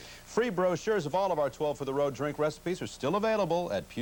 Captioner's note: none